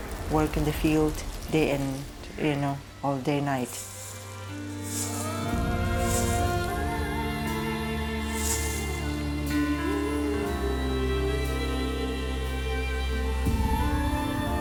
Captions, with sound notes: work in the field day and you know, all day night. (branch scraping) (singer vocalizing) (singer vocalizing melodically)